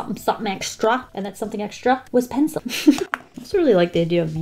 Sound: giggles

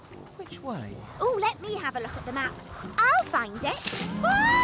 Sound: Oopsy yells

